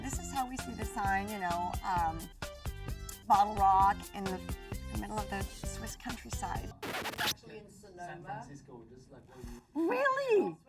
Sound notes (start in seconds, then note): 6.4 record player screeches